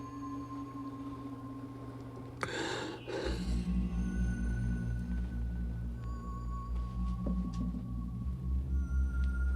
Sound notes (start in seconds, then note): 2.4 patient gasping; 6.8 dramatic music